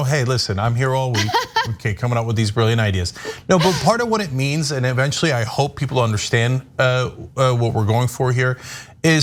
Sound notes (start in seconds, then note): 1.1 laugh